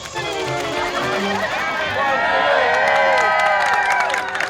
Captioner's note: people cheering